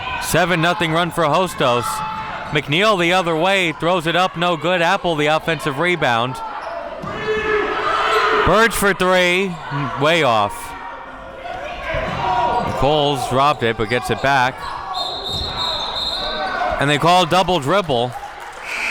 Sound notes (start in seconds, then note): 14.9 whistle blowing